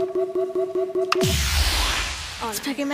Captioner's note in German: Buzzer